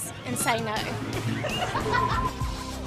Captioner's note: laughing; intro music playing